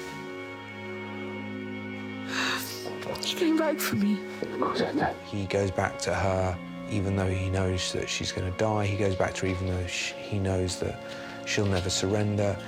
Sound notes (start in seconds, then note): 4.4 sobs